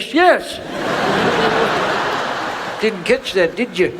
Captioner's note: audience laughs